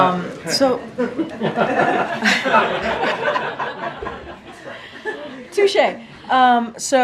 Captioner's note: laughter